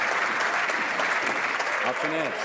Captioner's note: some Applause